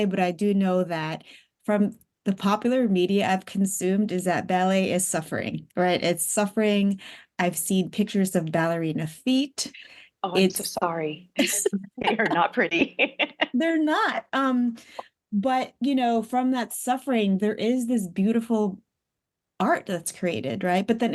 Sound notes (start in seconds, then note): 11.4 laughs